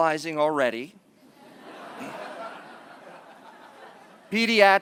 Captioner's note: laughter